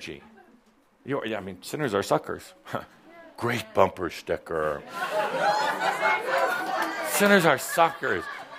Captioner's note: lots of laughter